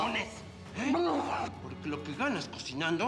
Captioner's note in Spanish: quejidos